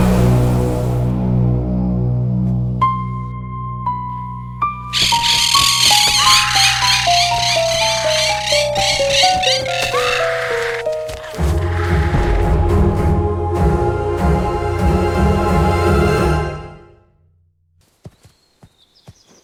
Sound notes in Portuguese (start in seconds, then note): 4.9 Sons de caturritas